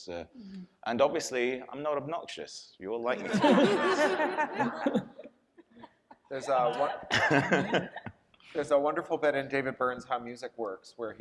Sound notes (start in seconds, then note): 3.2 audience and panelists laughing